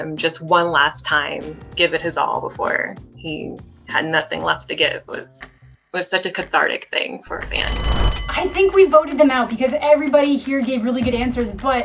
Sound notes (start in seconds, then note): 7.4 bell rings